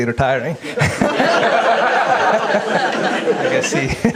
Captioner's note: audience laughs